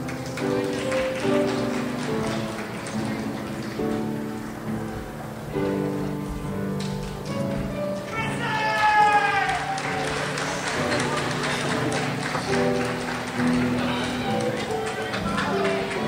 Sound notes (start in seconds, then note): 0.0 crowd applauds; 8.0 crowd applauds and shouts